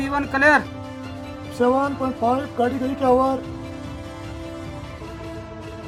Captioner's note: foreign language